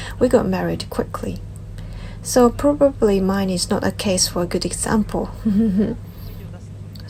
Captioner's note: laughs